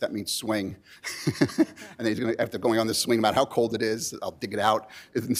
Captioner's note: laughs